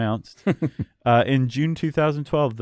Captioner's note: chuckles